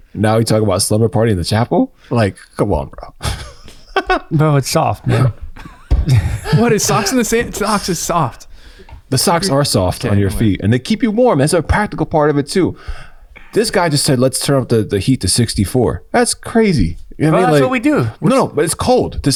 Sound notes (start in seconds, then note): 4.8 laughs; 5.0 chuckling